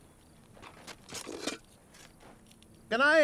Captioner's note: shovel scraping